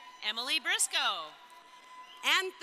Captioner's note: crowd cheering